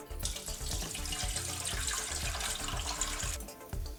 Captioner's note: liquid pouring